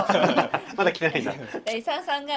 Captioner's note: laughs